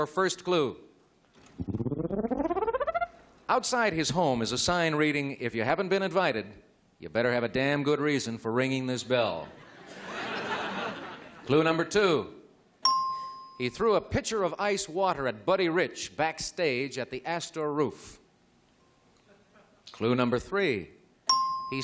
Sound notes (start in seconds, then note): 9.4 laughter; 12.8 ding